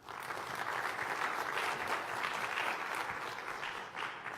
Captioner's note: applause